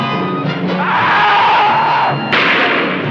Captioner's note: thief screams; shot firing; music intensifies